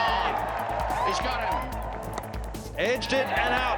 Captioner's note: audience cheering